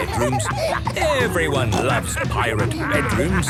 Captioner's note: laughter